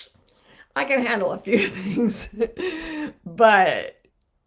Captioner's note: chuckling